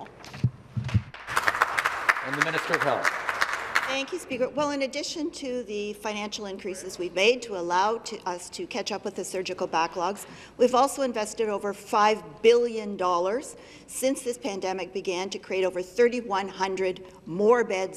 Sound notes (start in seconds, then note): 4.2 some Applause